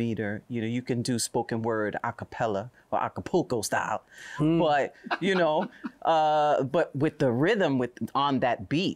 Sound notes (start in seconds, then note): 4.9 laughter